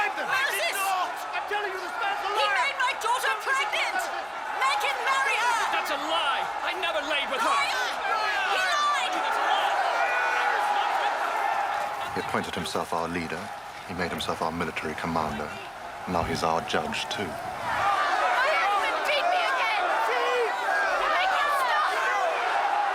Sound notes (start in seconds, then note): 9.7 all yelling